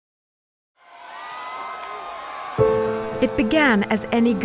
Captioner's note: crowd cheering